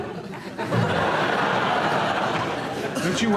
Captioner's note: audience laughs